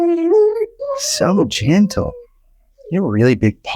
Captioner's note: dog whimpering